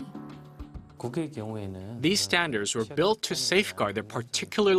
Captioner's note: Korean